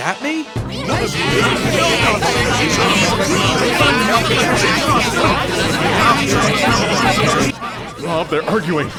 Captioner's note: everyone arguing and yelling over each other